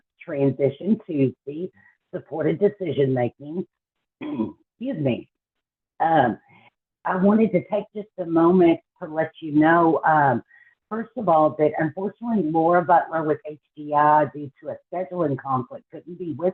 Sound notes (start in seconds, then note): 4.2 clears throat